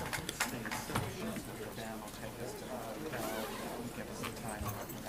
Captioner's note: applause